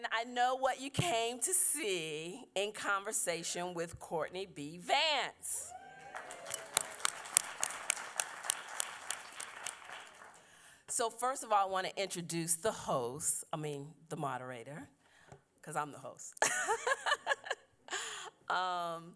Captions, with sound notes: I know what you came to see, In Conversation with Courtney B. Vance. [applause] First of all, I want to introduce the host, I mean the moderator, because I'm the host. [laughs]